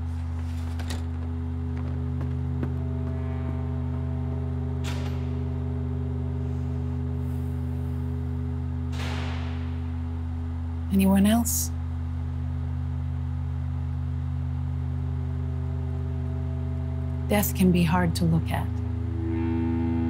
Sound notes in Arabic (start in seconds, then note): 2.7 فتح الباب; 6.9 يغلق الباب